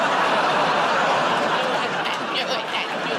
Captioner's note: laughter